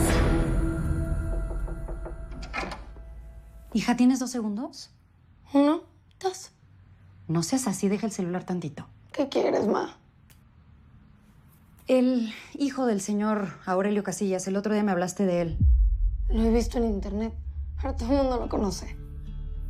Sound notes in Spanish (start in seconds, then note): 1.2 Toques en la puerta